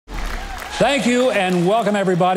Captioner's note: crowd cheering